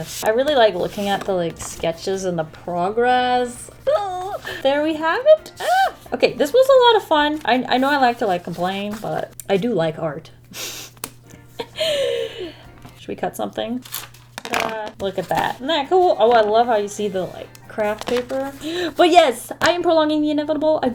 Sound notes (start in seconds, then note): 10.3 laughs